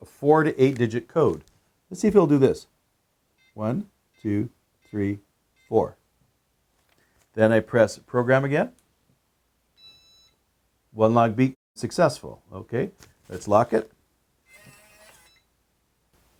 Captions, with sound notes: A four to eight digit code. Let's see if it'll do this. One, two, three, four, then I press program again. (powerbolt beeps) One long beep, successful. Okay. Let's lock it. (powerbolt buzzing)